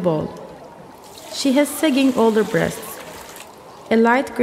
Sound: A louder sound of water being poured from a bowl

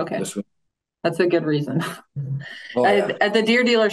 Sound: chuckles

